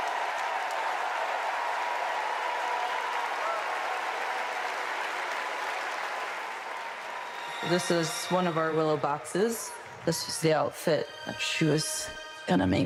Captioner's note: applause